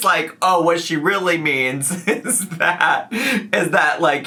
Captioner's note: laughs